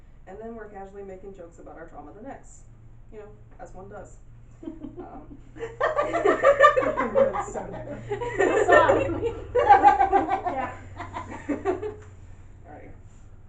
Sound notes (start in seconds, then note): 5.6 audience laughing uncomfortably because it's relatable